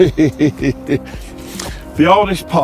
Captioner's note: laughs